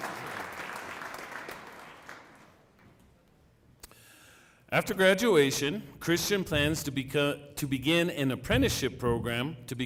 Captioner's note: applause